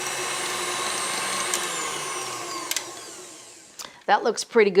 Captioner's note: mixer whirs